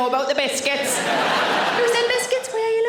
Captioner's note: audience laughing